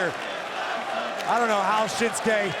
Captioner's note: audience chanting and clapping